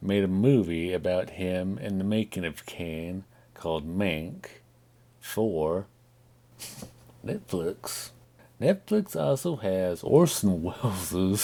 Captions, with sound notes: made a movie about him and the making of Kane, called Mank, for... (Chuckles) Netflix! Netflix also has Orson Welles' (Chuckling)